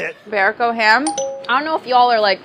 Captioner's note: dinging